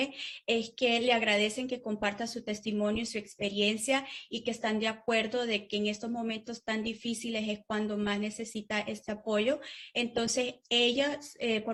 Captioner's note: spanish